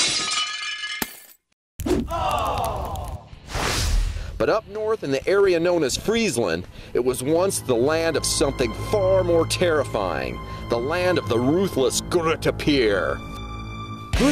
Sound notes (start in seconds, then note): 0.0 glass shattering; 2.0 fire crackling; 3.3 whooshing